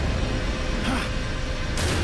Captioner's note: exclaims